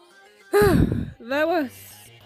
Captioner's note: sigh